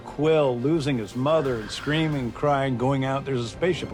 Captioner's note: screaming